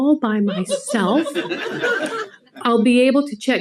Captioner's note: people laugh